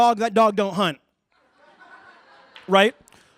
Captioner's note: laughter